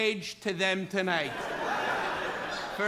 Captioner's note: laughter